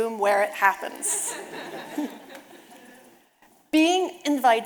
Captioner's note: audience laughing